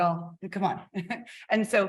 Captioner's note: chuckles